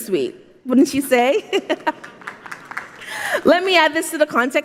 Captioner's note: laughing; audience applauding